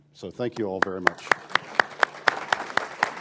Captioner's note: applause